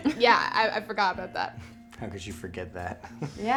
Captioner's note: laughs; chuckles